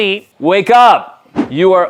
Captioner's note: swooshing